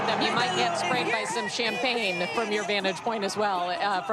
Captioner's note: applause